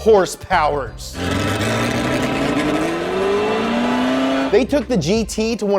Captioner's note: car engine revving